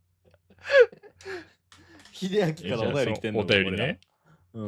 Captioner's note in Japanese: 笑い; 息をのむ音